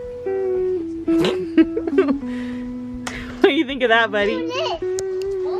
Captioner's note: laughs